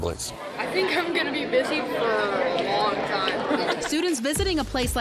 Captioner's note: laughing